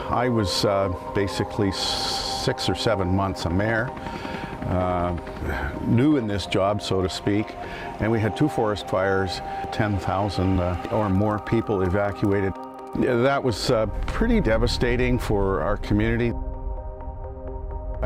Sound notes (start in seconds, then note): 4.1 helicopter whirring; 4.1 pensive music